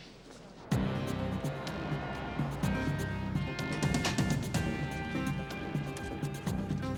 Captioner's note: soft music; car engine revving